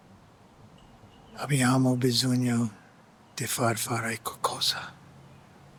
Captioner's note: speaking in Italian